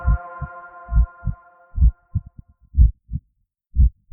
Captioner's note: heartbeat